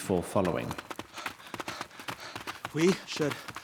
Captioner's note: panting